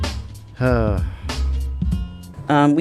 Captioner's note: sighs loudly